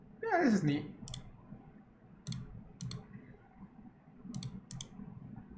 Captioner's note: clicking